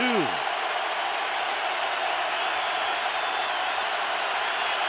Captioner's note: crowd cheering